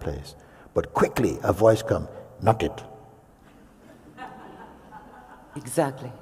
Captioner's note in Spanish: risas